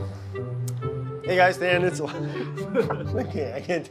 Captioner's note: laughs